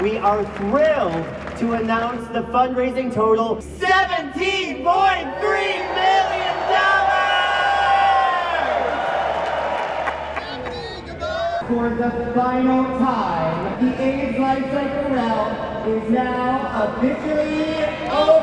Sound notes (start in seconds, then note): 7.7 crowd cheering